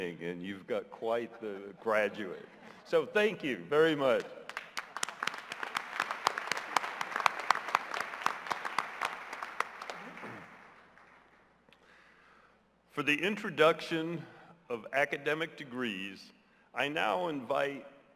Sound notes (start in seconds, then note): 4.1 applause